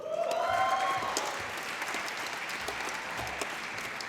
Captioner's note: applause